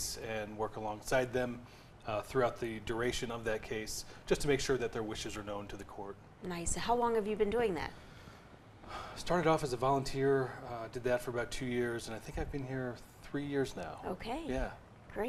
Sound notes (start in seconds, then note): 8.8 inhales